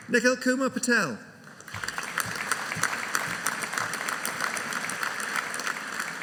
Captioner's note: audience applauding